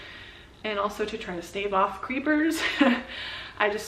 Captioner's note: laughs